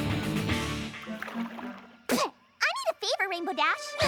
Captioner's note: spits